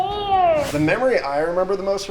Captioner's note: wooshing